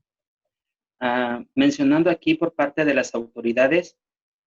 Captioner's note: speaking spanish